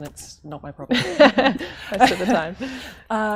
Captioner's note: laughter